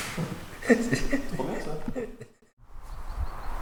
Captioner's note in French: rires